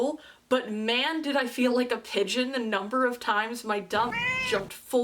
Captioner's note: meow